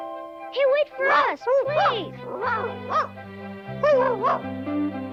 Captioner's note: Arrow barking